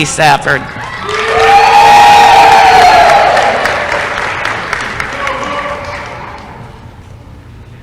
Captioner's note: applause & cheering